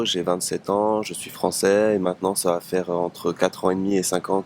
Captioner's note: French